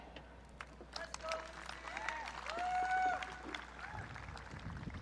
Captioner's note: audience cheering